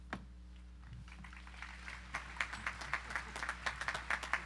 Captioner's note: audience applauding